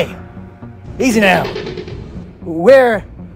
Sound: raptor Sounds

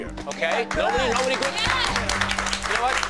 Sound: cheering and clapping

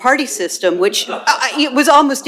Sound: laughter

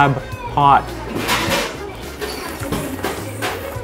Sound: slurps

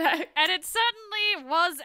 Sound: laughs

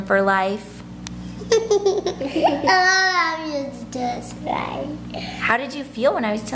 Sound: laughing

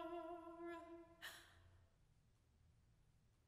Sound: inhale

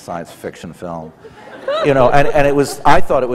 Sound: laughter

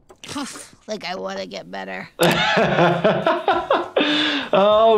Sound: laughs

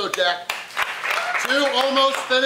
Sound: crowd claps

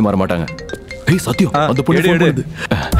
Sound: phone rings

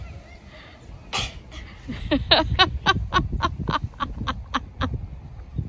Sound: grunts some more and both chuckle

